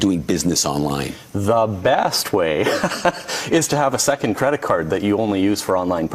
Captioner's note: laughs